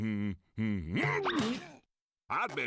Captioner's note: moans